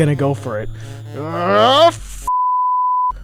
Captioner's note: grunting